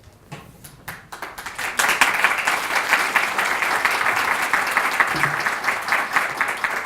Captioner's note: applause